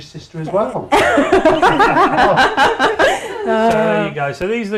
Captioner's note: laughing